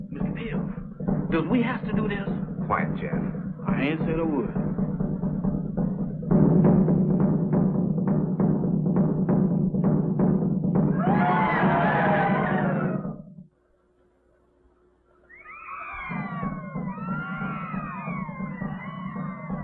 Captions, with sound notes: - Mr. Bill, does we have to do this? - Quiet, Jeff. I ain't said a word. [ SHOUTING - DRUM MUSIC STOPS ] [ SHOUTING ]